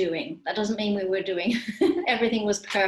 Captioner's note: laughs